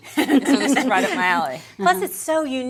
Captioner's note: laughing